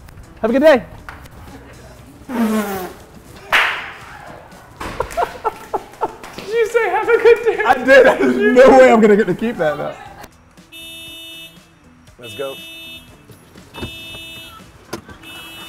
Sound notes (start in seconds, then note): 4.8 laughter; 10.2 car's anti-theft alarm goes on